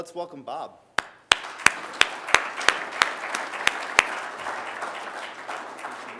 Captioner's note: applause